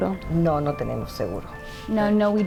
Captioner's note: interpreter speaking in Spanish; speaking in Spanish